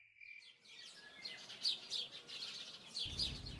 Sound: birds chirping

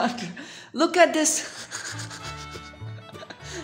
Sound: fake Laughter

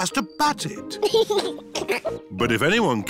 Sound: chuckles

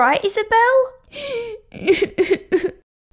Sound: sobbing

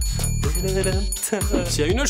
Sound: hums

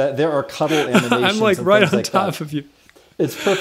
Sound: laughter

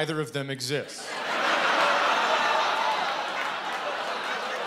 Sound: laughter

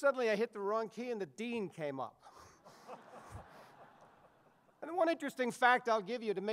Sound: audience laughs

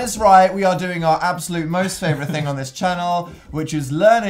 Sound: laughs

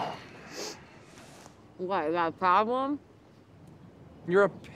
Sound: sighs

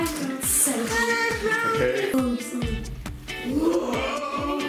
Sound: yells

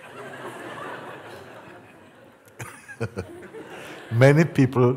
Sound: laughter

